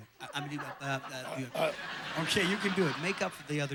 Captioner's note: audience laughing